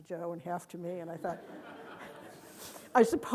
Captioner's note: audience laughing